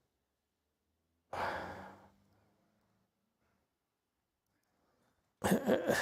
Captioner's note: sighs